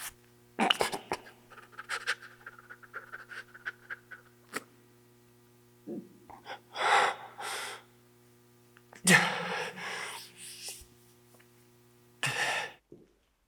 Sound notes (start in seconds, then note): 1.1 Jacob shivering; 9.0 Jacob gasps